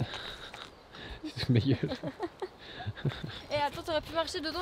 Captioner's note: laughs